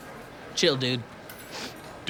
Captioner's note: sniffs